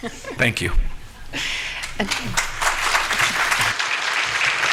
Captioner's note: applause